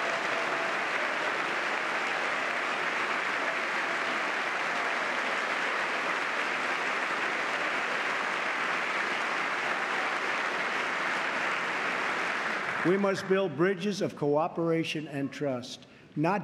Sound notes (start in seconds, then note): 0.0 cheers; 0.1 applause